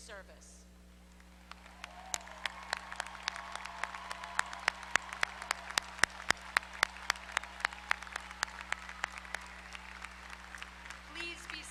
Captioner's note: applause